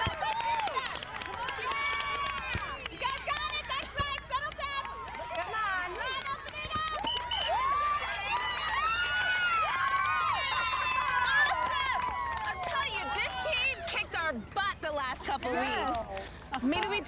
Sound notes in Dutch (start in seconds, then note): 7.4 gejuich